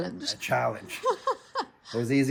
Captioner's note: laughter